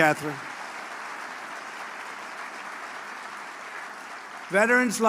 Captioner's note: applause